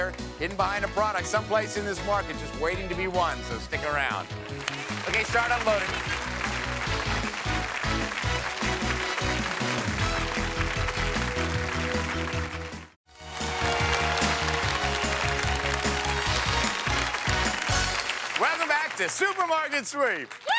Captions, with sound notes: It's out there hidden behind a product, someplace in this market just waiting to be won so stick around. Okay, start unloading. (applause) (upbeat music) - Welcome back to "Supermarket Sweep."